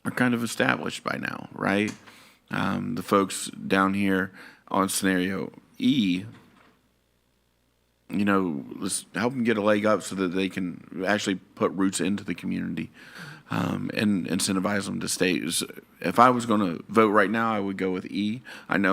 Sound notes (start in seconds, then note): none